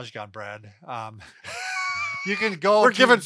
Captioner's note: laughing